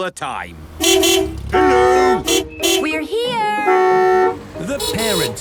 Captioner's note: beeping